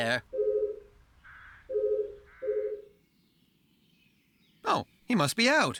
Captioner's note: phone Ringing